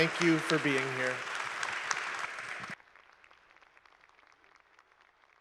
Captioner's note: audience claps